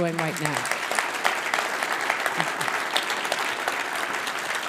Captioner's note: audience applauding